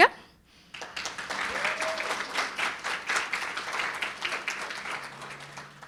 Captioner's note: audience cheering and applauding